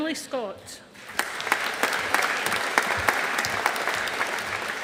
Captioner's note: audience applauding